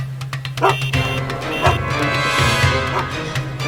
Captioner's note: dog barks; horn honking; dramatic music